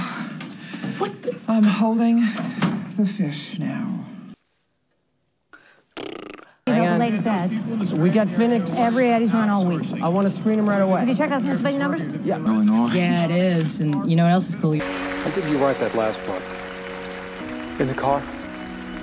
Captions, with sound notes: - I'm holding... the fish now. [blows raspberry] - When'd you write that last part? - In the car.